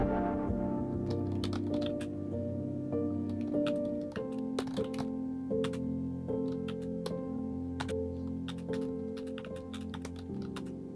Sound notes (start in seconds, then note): 1.5 sounds of typing